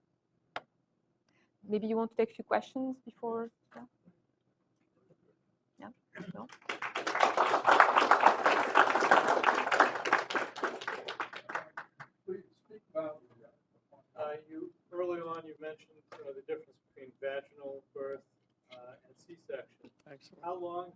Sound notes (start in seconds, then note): 6.3 applause